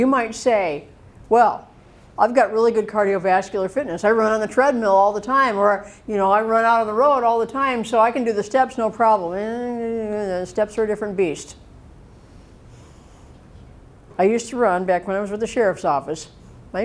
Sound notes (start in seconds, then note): 9.4 mumbling